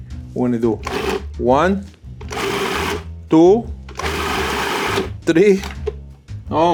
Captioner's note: food processor whirring